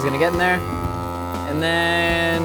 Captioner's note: vacuum sealer buzzes